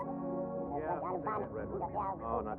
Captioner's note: speaking alien language